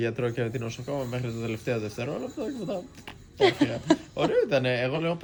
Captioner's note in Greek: γέλια